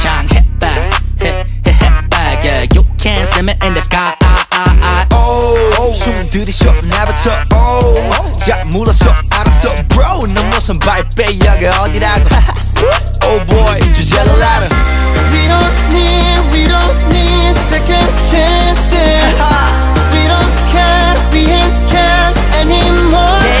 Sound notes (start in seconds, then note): 11.9 ha ha